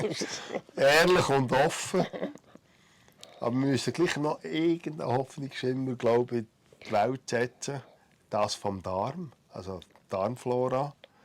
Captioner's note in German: lacht